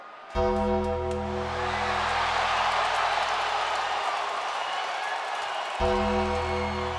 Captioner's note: crowd cheering